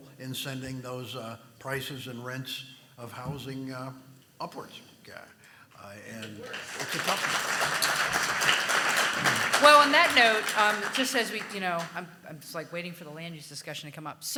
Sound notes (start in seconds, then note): 6.2 audience applauding